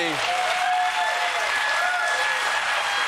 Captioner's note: applause